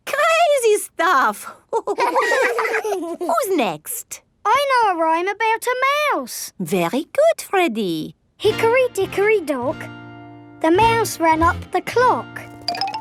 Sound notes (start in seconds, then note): 1.7 all laughing